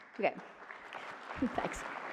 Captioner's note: applause